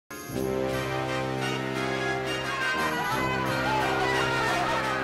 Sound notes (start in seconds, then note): 0.3 ominous Music; 1.9 crowd screaming